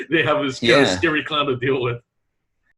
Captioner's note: laughing